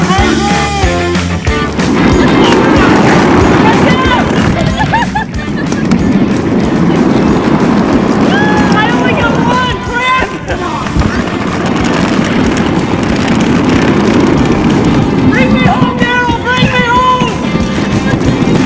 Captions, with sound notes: (yelling) (laughing) - I only got one. Bring me home, Derral, bring me home.